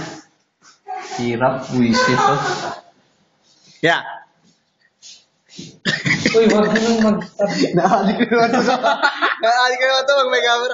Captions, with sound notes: difficult damn it brother (giggle) It's getting addicted again to the cam...(Laughter) it's being addicted again when there's a camera